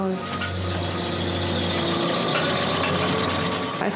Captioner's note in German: Lautes Tuckern